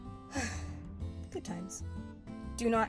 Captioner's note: sigh